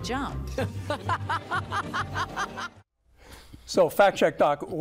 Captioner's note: laughs